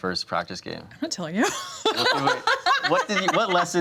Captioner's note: laughs